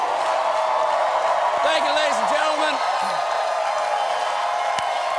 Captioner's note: cheers and applause